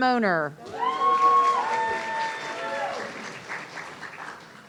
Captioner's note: audience cheering